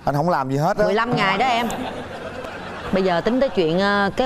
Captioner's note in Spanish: risas